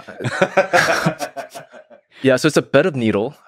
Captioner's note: Lex laughing